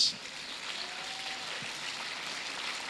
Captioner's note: applause